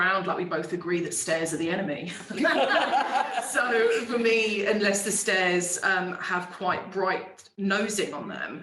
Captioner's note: laughing